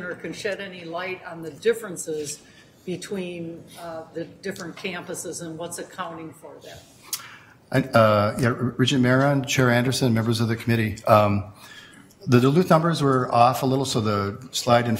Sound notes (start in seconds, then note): none